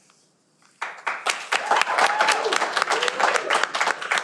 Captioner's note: clapping